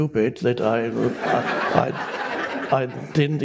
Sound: public laughing

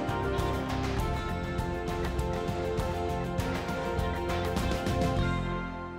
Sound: applause

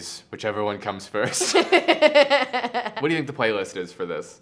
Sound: laughs

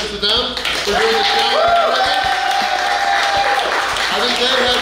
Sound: cheering & Clapping

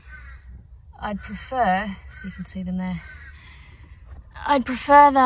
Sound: crow continues to call loudly; crow keeps going

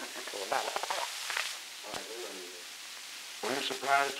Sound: production chatter

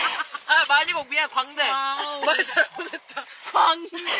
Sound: laughs

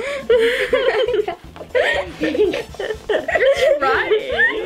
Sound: laughing

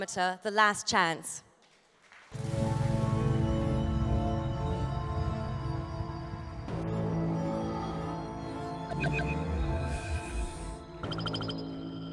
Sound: applause

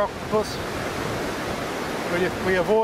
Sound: waves crashing

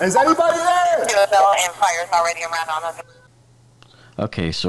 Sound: radio dispatching in background

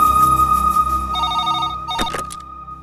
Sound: phone rings

